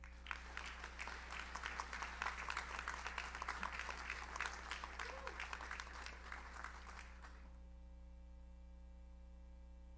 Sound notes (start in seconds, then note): 0.0 audience applauds; 4.9 audience member cheers